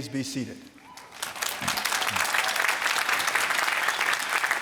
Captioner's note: applause